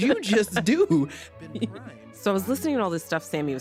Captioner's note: laughs